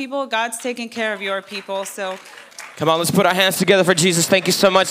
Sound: clapping

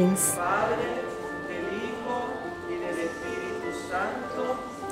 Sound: praying in Spanish

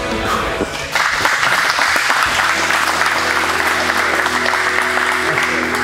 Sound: spectators applauding

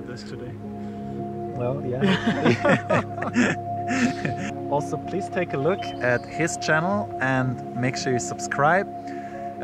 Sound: giggle

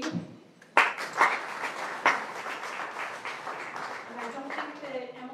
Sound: applause

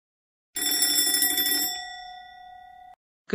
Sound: school bell rings

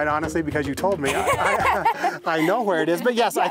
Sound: laughing

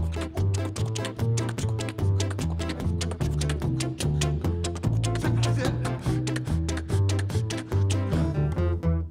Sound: beat boxing; guitar playing

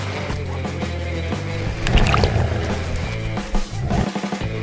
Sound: splashing

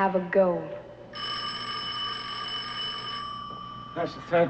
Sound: phone ringing

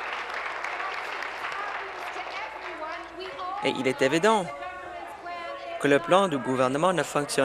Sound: applause

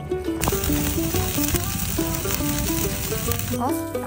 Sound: sizzling

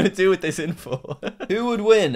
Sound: laughs

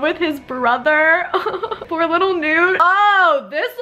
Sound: fake crying

